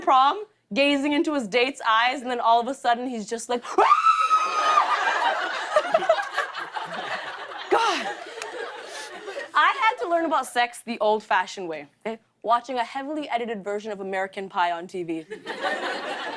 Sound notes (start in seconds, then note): 3.6 screams; 4.5 laughter